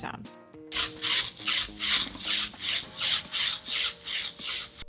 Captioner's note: sizzling sound